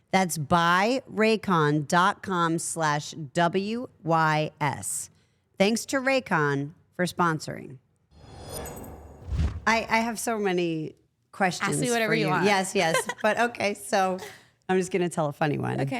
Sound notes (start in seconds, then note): 8.2 logo whooshing